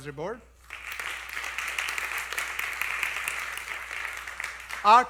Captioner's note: applause